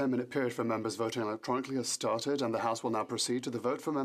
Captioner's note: speaking French